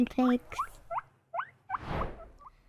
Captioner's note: guinea pig squeaking